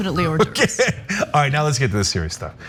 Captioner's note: laugh